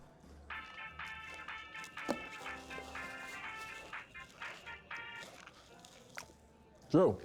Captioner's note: cell phone rings